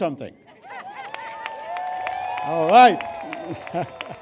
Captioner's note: laughter and cheers